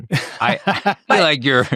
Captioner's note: laughing